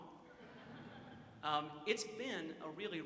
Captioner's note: audience chuckles